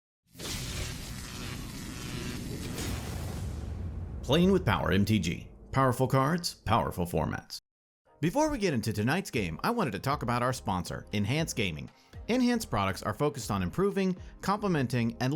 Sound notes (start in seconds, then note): 0.4 electricity buzzing